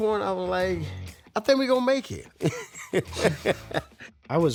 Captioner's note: chuckles